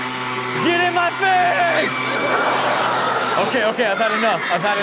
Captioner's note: leaf blower blowing hard; laughter